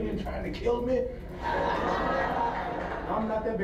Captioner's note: audience on TV laughs